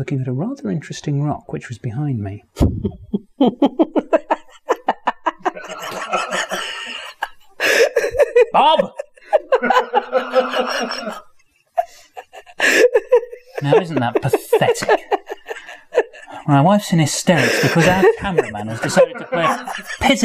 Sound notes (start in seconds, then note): 2.5 laugh; 10.3 laughter continues